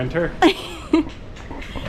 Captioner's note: laughs